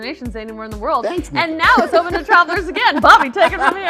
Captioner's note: laughs